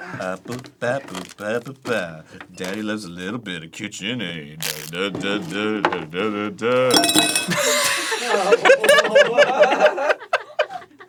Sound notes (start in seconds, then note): 0.1 singing; 6.9 metal clinks; 7.6 both giggling